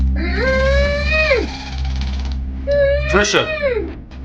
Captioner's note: Patricia moaning